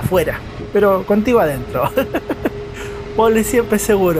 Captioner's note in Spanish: risas